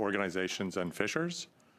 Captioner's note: speaking French